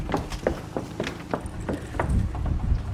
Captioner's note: heals clacking